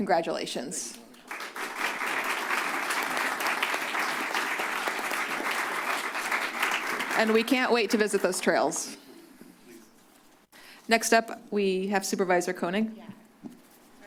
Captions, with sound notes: Congratulations. - Thank you. - Thank you. [applause] And we can't wait to visit those trails. - Next up we have Supervisor Koenig. - Yeah